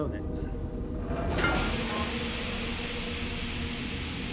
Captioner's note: steam hissing